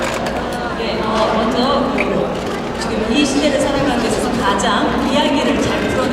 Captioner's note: speaking Korean